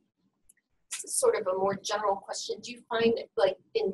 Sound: voiceover

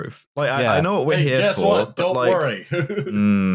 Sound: chuckles

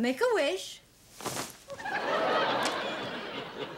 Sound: audience laughing

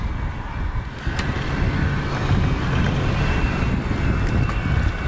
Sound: wind gushing

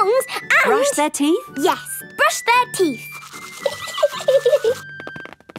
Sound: giggling

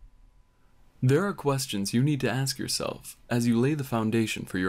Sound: voiceover

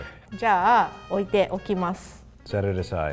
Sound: speaks in foreign language

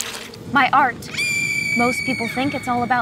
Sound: screaming

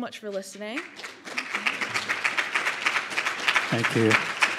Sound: audience clapping

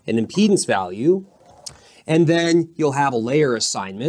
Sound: marker squeaking

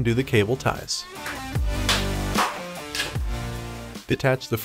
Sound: cutting the cable ties sound

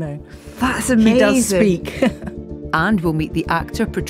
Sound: laughs

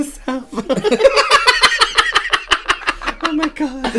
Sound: extreme Cackling

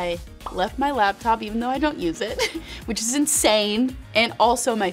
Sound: chuckling

